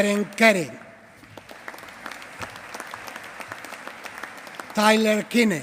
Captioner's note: applause